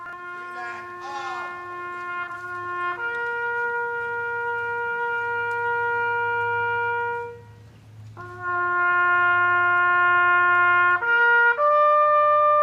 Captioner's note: taps